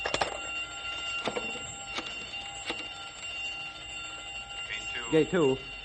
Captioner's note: alarm